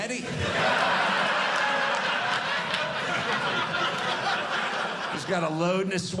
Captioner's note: audience laughing